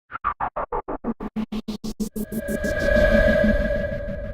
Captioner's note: choppy, futuristic sound